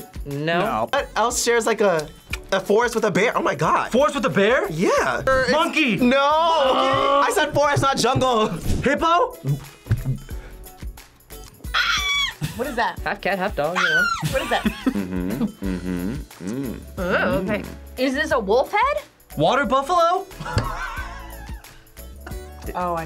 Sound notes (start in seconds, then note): 11.7 screams; 13.7 screams; 13.9 React laughs; 20.4 React laughs